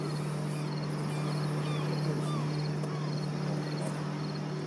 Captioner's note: birds calling